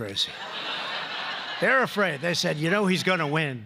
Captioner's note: laughter